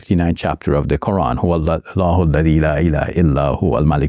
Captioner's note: speaking Arabic